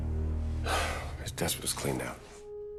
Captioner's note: sighs